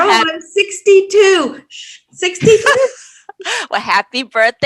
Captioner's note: laughs